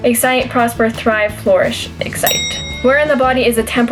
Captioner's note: bell ring